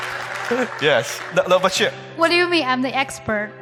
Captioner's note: speaks in foreign language